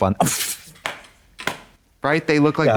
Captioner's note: Katya splutters and slaps